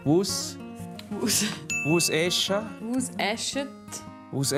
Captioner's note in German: Lachend